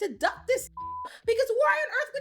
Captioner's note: beep